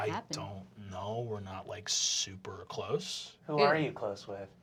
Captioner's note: deep voice